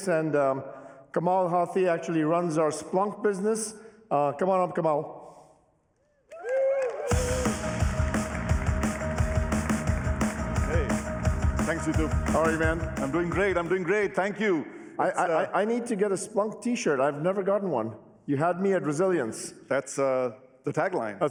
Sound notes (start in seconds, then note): 6.3 cheering, applause; 7.1 upbeat music